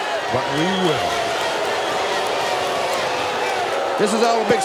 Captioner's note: audience cheering